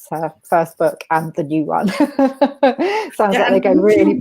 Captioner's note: laughs